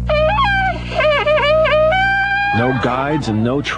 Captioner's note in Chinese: 吹号角声